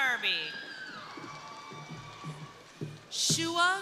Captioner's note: crowd cheering